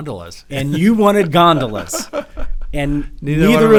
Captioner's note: laughing